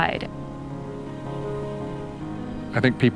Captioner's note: wind echoes faintly